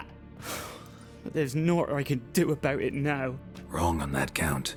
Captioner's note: sigh